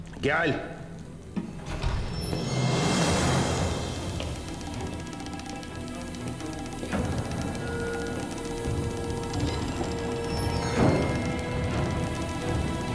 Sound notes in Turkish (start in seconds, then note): 1.3 Kapı açılma sesi; 10.4 Kapı kapanma sesi